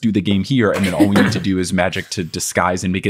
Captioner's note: chuckling